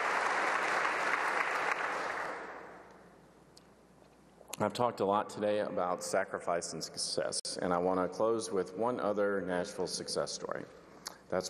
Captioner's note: applause